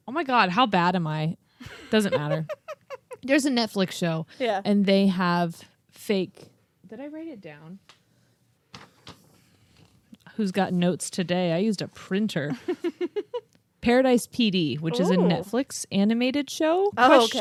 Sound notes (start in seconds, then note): 1.6 laughs; 8.4 paper rustles; 12.5 laughs